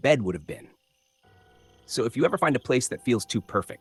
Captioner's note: pause